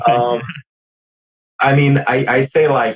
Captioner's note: laughs